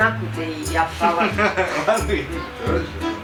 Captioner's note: laughs